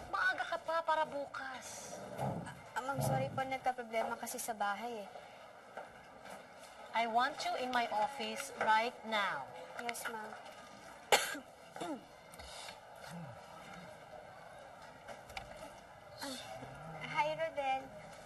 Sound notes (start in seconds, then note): 11.1 coughs, clears throat